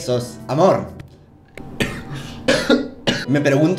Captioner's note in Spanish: cof